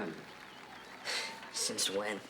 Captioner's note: scoffs